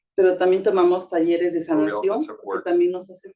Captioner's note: speaking Spanish